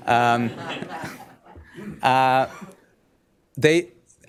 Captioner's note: laughter